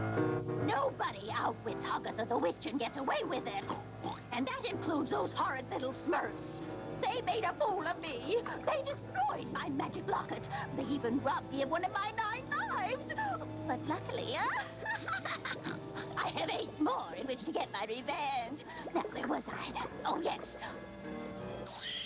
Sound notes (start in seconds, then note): 3.5 snorts